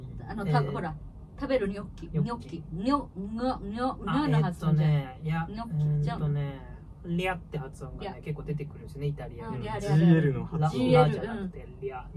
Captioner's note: in Italian